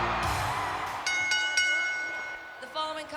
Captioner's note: bell rings